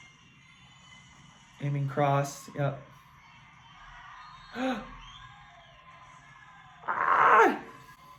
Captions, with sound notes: Aiming cross. Yep. (gasps) Ah!